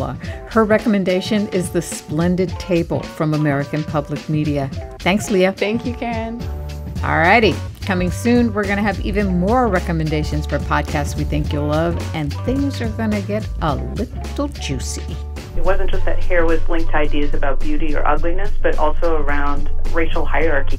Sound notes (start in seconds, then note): 14.6 soundbite of archived recording